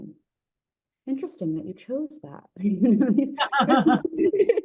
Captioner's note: laughing; laughs